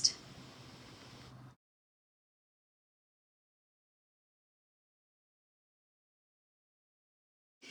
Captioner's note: silent credits